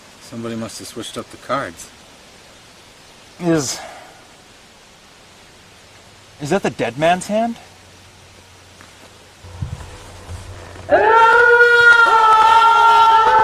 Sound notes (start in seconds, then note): 9.5 howling